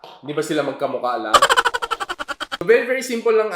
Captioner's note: laughter